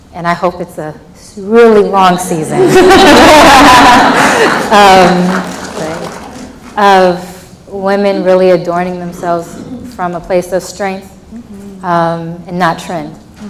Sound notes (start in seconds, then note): 2.5 laughs